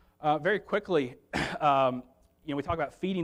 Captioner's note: clears throat